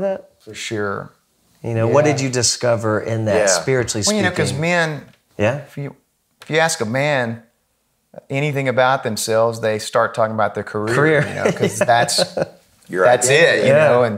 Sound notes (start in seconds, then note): 10.8 laughing